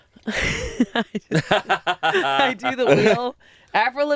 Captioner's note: laugh